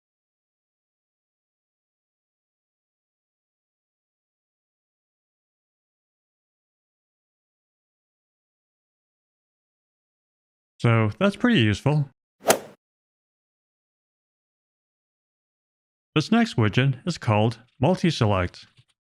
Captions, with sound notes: So, that's pretty useful. [golf ball hit sound effect] This next widget is called MultiSelect.